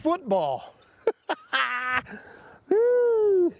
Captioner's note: laughs